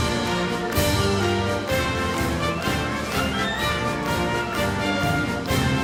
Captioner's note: audience clapping rhythmically